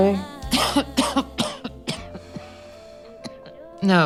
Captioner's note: coughing